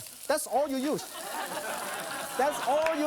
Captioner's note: audience laughs